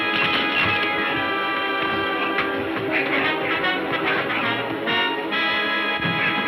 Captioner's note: blows thudding; men grunting